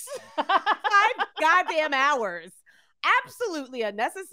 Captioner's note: laughing